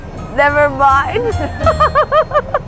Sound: laughs

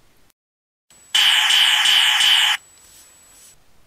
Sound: sound effect

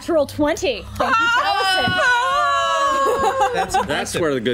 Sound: players cheer

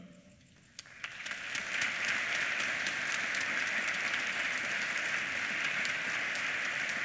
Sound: applause

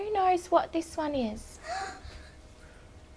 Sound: girl gasps

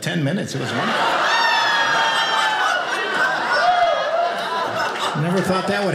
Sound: audience laughing

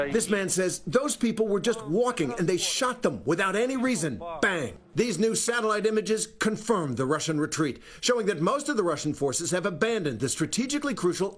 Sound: speaking foreign language

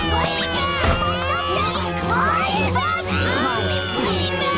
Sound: shouting and arguing; crying

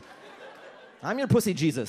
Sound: audience laughs

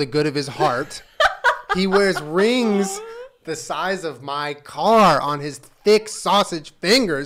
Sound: loud laugh

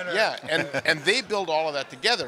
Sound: chuckling

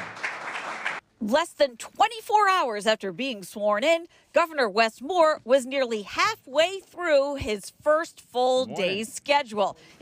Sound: applause

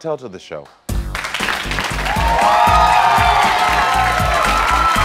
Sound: audience applauds and cheers

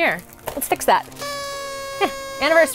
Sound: party sounds

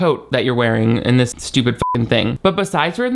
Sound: beep

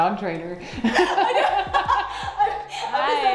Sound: both laugh

